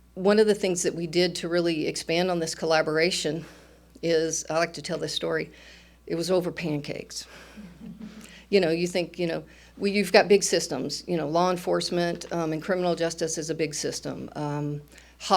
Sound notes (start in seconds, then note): 7.6 audience chuckles